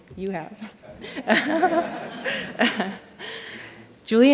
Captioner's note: laughter